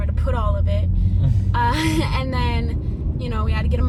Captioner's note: laughs